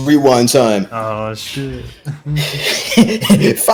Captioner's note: chuckles